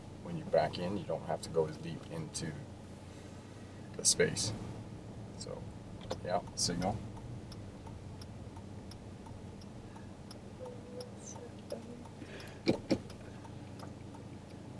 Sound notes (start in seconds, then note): 7.1 car signal clicking